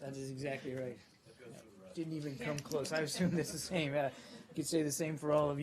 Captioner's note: laughter